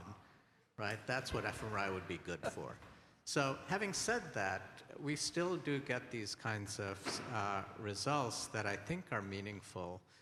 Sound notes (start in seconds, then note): 3.0 laughter